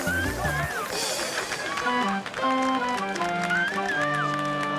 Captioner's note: group applauding